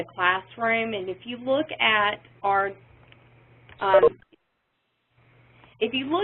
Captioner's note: pause